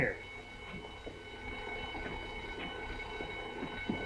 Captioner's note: alarm ringing